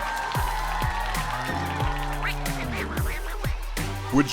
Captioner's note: cow mooing, duck quacking